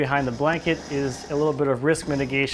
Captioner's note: engine whirring